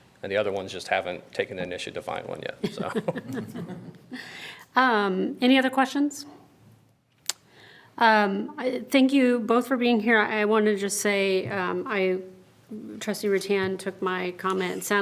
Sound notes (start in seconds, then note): 2.6 members chuckling